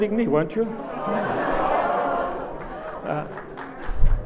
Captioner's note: audience laughs